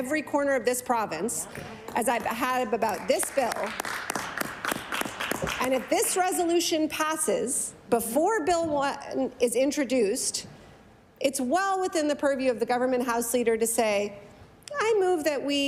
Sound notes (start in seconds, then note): 6.0 applause